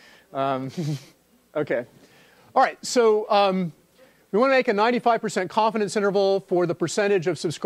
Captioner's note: laugh